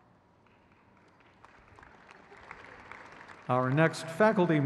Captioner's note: crowd cheers